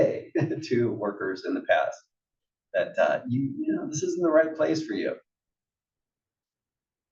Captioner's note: laugh